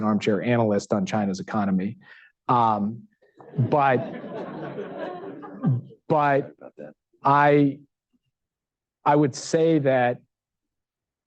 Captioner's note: laughter